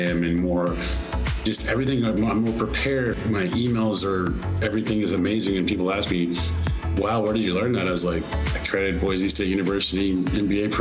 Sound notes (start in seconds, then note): none